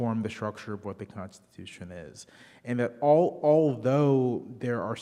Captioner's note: none